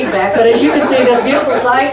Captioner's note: audience chuckles